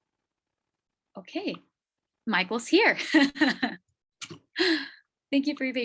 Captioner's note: jolly laugh